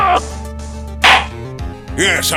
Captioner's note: gavel slams!